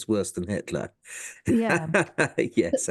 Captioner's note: laugh